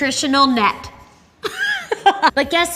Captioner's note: laughs